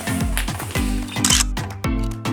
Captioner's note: photo click